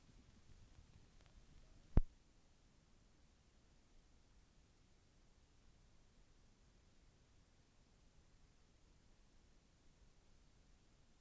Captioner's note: silence